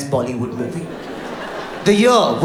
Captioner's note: audience laughs